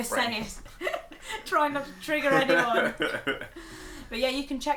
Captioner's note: laughs